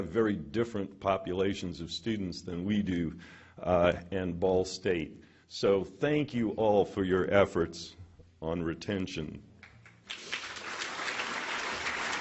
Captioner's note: applause